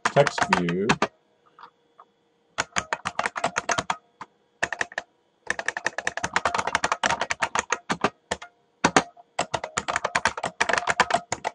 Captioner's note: typing